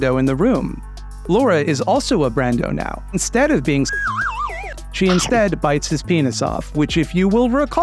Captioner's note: slide whistle noise